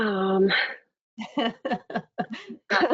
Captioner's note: laughter